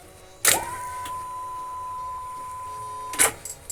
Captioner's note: clicking